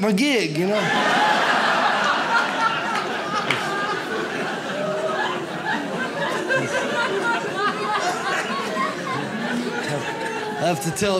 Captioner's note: audience laughs